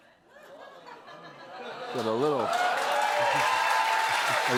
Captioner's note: cheers and applause